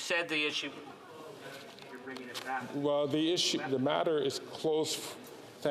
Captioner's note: off mic